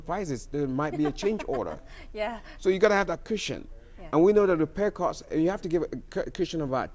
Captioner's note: laughs